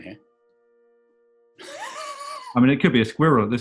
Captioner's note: sniggering